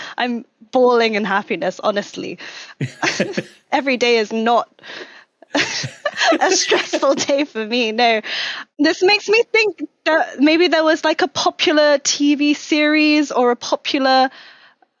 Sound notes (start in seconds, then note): 5.5 both crack up